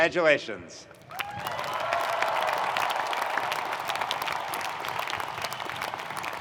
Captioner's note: audience cheering and applauding